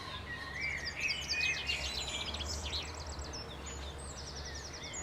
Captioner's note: birds singing